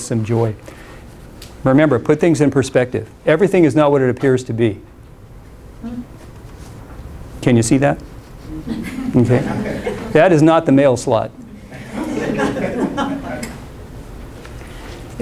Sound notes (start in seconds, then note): 11.6 laughter